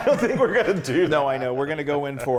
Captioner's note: laugh